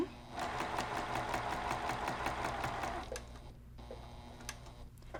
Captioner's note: sewing machine humming